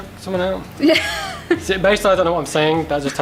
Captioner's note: laughs